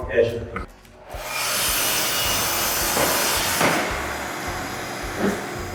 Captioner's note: miter saw grinding